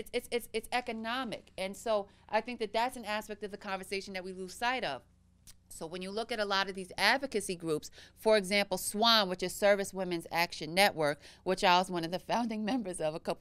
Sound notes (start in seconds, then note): none